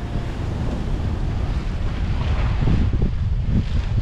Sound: water splashing

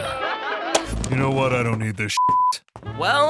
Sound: both laugh; beep

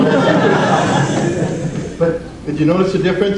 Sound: audience laughs

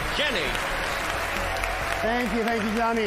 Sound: applause

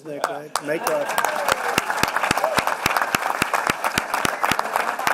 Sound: applause

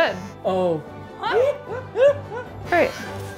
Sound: laughing

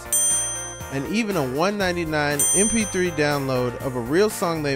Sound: ding

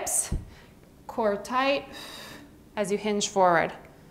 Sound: exhales

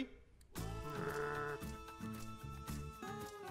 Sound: wookie growl

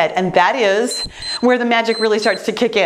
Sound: timer beeps

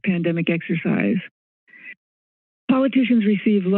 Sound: silence

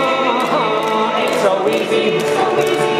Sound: in deep voice

